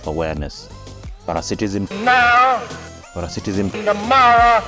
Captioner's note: cheering